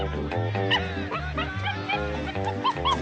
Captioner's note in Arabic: ضجيج القرد